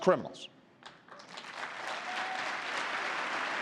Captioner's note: applause